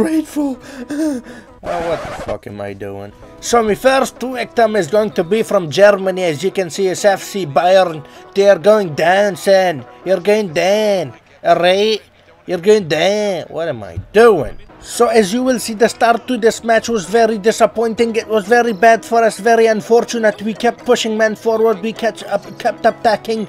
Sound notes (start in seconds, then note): 13.3 in a retarded accent; 20.1 in an attempted Spanish Accent